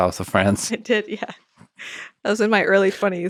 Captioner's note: chuckles